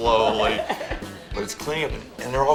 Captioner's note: laughs